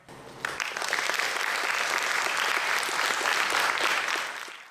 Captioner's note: audience applauding